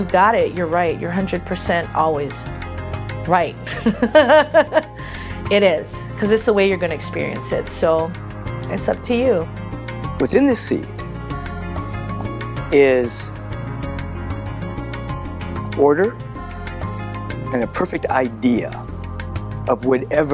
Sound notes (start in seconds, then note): 3.7 Faith laughing